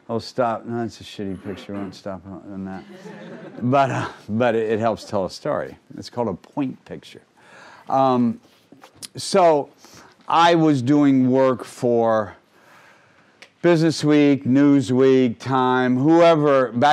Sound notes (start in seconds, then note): 2.7 crowd laughing